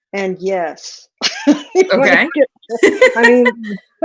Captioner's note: chuckles